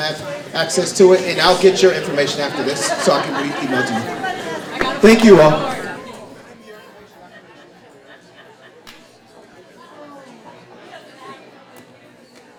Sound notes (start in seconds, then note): 6.3 audience chattering